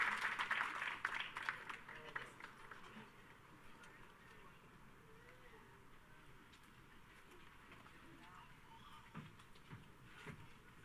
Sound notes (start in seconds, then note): 3.0 people chatter indistinctly